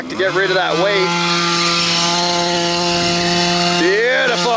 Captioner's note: engine roaring